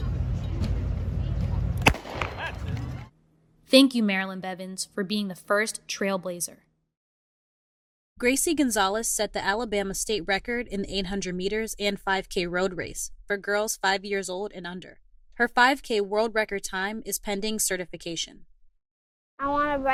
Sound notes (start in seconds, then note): 1.8 starter pistol firing